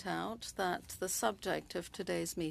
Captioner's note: speaking french